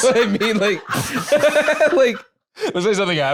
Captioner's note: both laughing